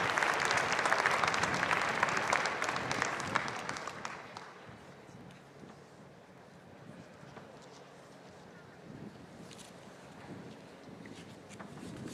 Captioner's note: applause